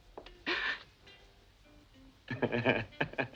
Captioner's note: Brigitte gasps; Christian laughing